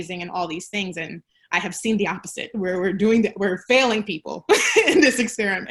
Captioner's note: laughter